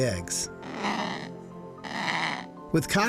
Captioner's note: kakapo grunting